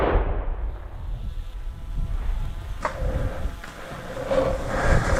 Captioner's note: drone buzzing above